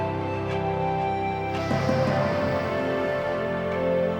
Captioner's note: inhales deeply